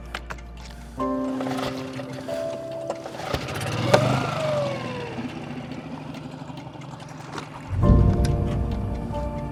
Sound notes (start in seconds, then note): 3.8 engine revs